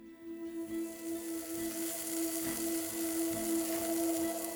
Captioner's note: food sizzling